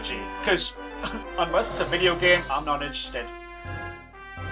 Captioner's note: ahem